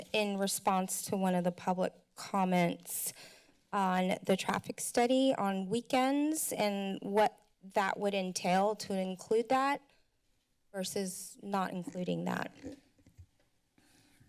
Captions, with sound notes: in response to one of the public comments on the traffic study on weekends and what that would entail to include that versus not including that. [mic crackling]